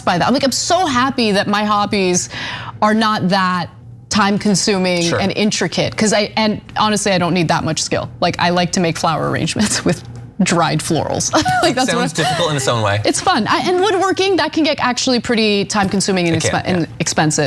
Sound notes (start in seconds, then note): 11.3 laugh